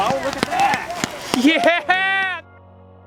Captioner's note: cheering